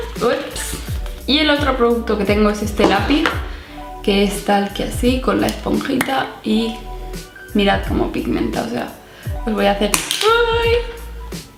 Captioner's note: pencil falls